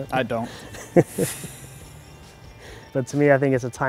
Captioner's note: chuckles